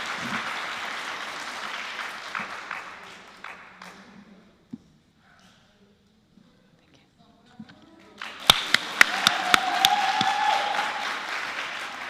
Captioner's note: applause